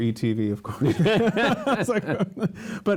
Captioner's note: laughter